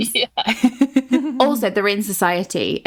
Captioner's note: laughs